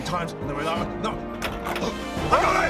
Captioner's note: unlocks